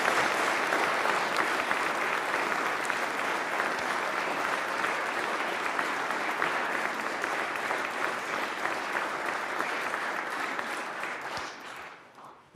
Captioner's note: applause